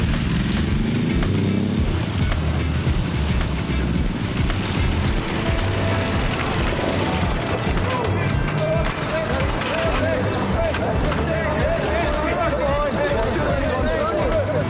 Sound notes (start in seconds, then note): 0.1 engine racing; 8.3 reporters shouting; 11.8 upbeat music